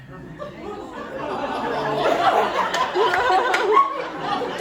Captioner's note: audience groans